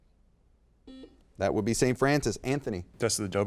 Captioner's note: beep